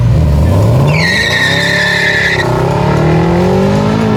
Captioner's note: car screeching